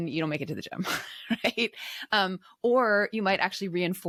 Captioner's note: chuckles